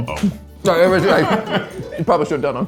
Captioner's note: laughing